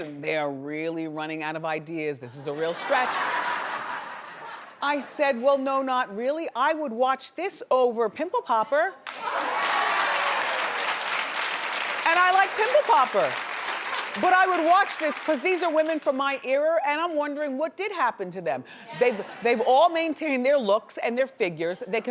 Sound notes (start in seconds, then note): 2.6 audience laughs; 9.0 audience claps